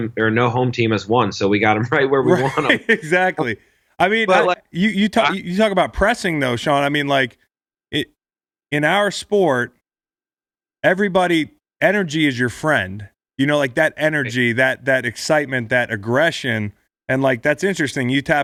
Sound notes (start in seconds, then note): 2.2 laughs